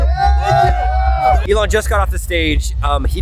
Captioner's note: cheering